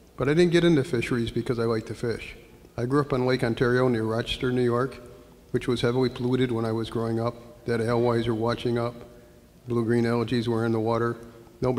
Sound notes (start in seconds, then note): 8.0 slurs words